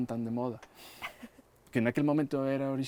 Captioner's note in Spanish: ARANXA se ríe